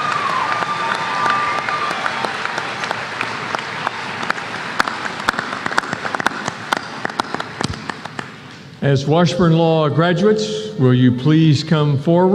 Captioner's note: applause